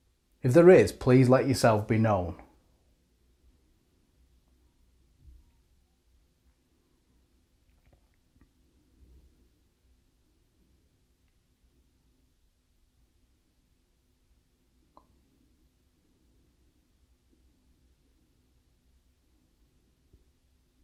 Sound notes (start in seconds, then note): 2.5 silence